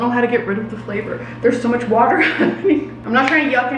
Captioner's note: laughing